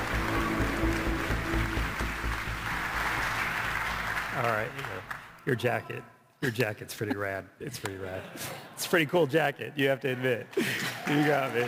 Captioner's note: applause